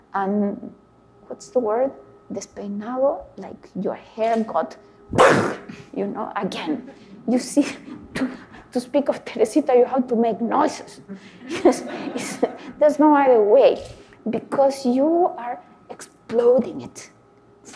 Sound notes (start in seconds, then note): 5.1 vocalizes plosive explosion; 6.6 audience laugh lightly; 11.1 audience laugh